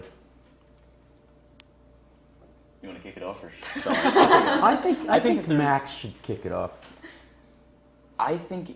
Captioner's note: laugh